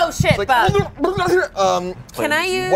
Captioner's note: grumbles